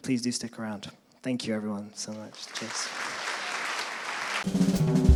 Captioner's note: applause